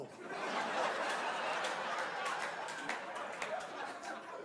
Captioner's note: crowd laughing